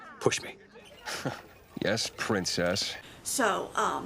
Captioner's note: huffs